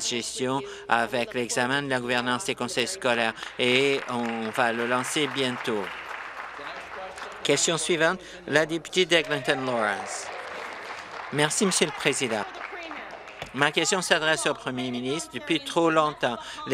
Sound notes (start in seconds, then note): 9.0 applause